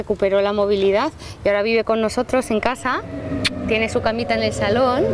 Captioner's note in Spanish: le da un sonoro beso